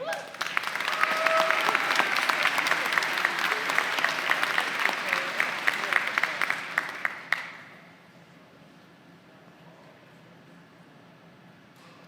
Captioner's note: applause